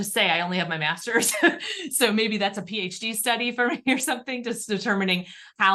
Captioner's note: laughter